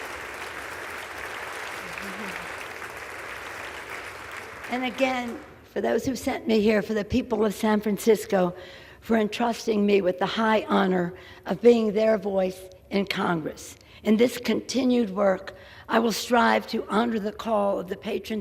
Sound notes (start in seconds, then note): 5.9 applause